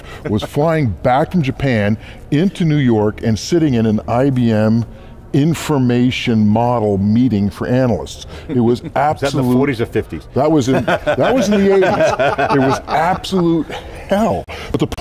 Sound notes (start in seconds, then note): 10.6 laughter